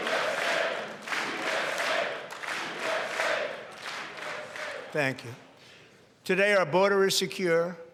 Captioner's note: chanting usa